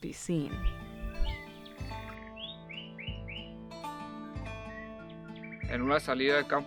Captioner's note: birds singing; tranquil music